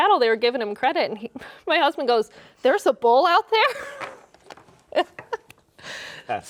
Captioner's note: laughs